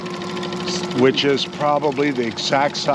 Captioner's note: reel cranking